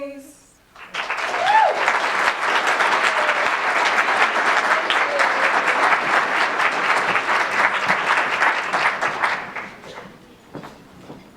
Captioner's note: applause